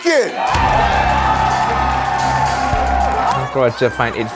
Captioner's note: crowd cheers